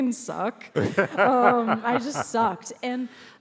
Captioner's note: laughs